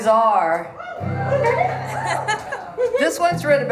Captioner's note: crowd cheers